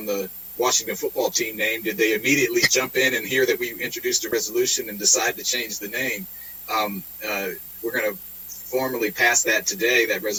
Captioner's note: laughter